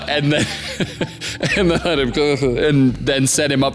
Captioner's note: laughs